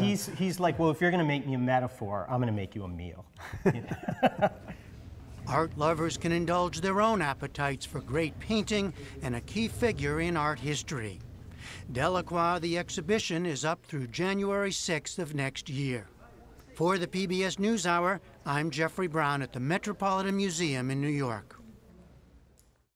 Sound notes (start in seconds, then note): 3.4 laughter